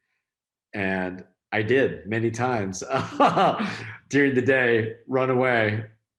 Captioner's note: laughs